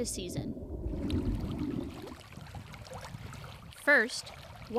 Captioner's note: water lapping